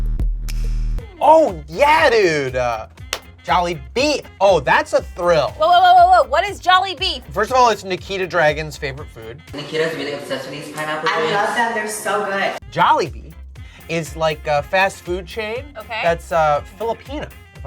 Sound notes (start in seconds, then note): 3.1 claps